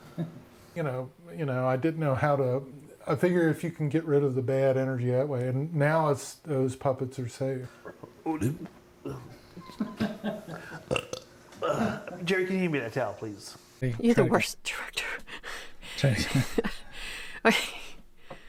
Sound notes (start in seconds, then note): 0.0 chuckling; 7.8 belching; 9.0 chuckling; 16.0 chuckling